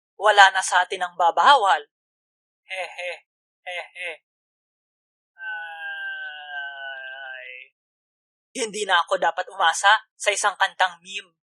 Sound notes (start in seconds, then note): 2.7 nervous laugh; 5.6 sigh